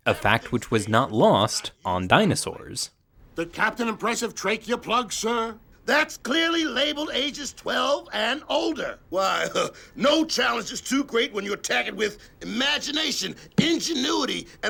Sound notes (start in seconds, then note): 9.3 chuckles